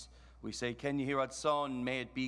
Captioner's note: speaks in foreign language